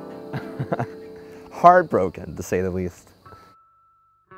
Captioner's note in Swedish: skrattar